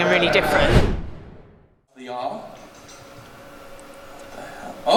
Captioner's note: air whooshing